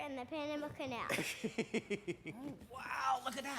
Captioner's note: laughing